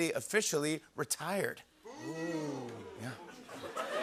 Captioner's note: audience "Oohs"; laughter